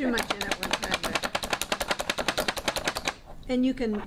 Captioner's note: chopper thumping